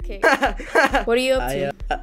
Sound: laughter

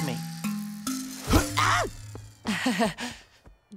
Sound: chuckles

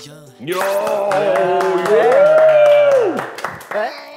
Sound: applause!

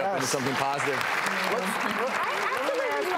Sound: audience clapping

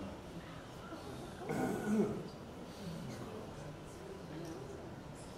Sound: audience chatters

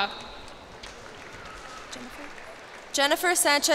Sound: cheers and applause

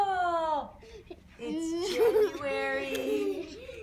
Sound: child laughter

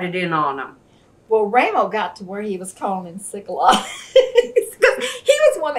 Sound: laughs

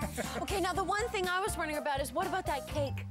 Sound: laughing

